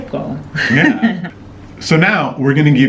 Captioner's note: laughing